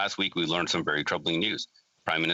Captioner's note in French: voix de l'interprète